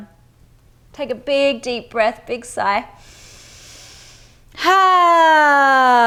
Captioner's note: inhales breath